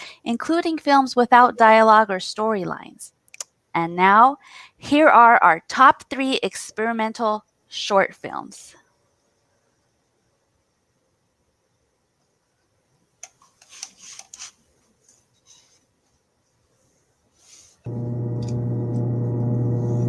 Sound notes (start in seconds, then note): 13.0 background static